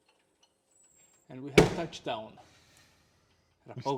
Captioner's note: bangs on wall